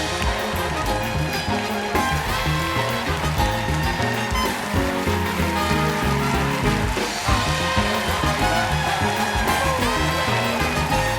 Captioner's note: band playing; cheers and applause